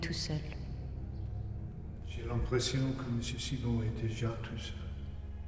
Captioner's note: speaks in French